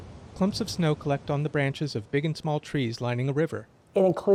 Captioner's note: wind rushes through trees